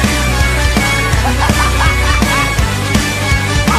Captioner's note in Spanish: ja ja ja